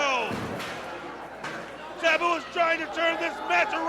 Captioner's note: crowd cheering